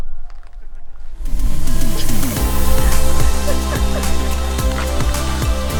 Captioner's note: laughing